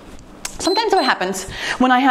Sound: timer beeps

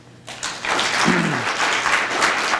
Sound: audience applause

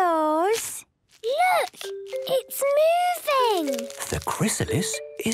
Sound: whispering

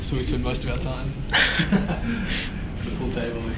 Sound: laughs

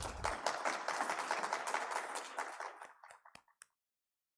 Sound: audience applause

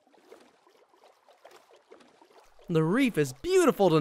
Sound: splashing

